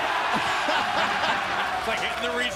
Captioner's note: cheers & applause; laughter